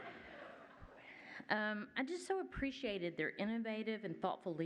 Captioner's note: laughter